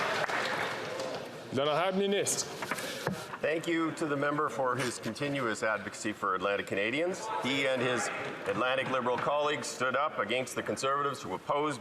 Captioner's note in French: voix de l'interprète